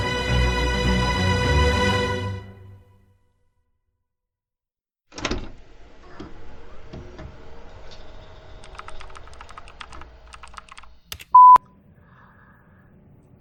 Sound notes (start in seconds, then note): 4.9 keyboard keys clicking; 4.9 quiet hum of an office